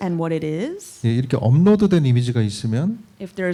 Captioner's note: speaking korean